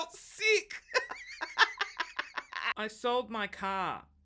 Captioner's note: laughs